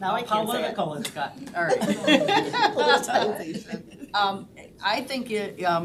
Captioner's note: all laughing